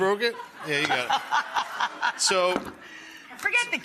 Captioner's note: audience laughing; laughing